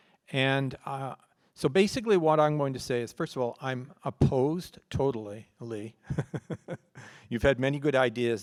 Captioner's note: laughs